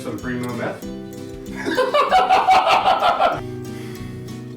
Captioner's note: laughter